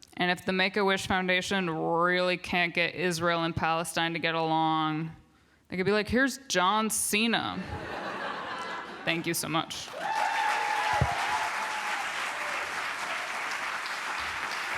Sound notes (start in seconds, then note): 9.8 applause